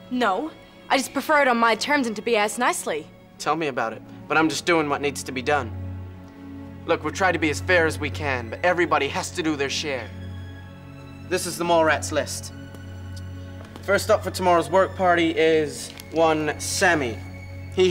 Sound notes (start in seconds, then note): none